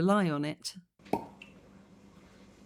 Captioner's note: cork pop